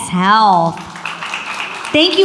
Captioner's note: audience applauds